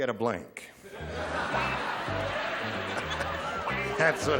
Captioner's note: laughter